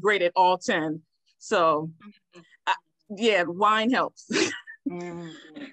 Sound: laughs

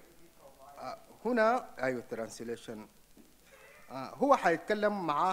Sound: speaks in foreign language

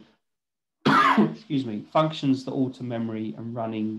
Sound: coughs

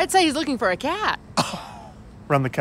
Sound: guffaws

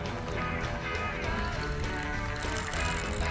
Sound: reel spinning

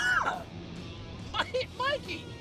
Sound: coughing

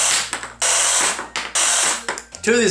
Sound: saw noises

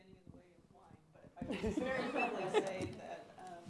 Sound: laughter

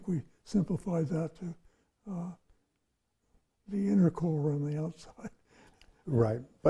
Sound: laughs

